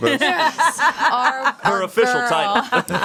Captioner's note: everyone laughs